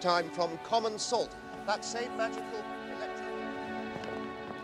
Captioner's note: <i> voice fades</i>